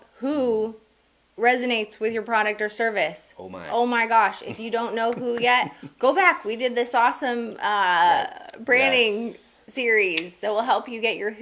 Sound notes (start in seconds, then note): 4.1 laughing